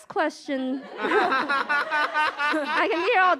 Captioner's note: laughter